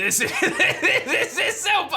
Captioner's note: laughs